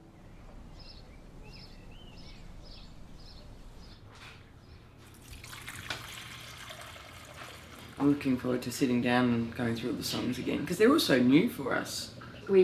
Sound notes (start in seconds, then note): 0.0 birds chirping; 5.0 water pouring